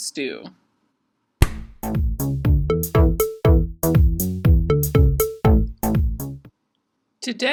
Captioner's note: hand slap